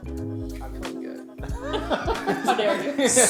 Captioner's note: players laughing